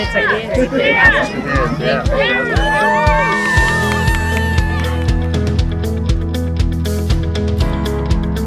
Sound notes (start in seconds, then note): 3.0 crowd cheering; 5.8 upbeat music